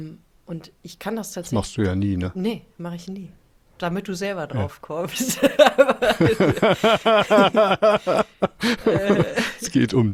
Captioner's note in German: gelächter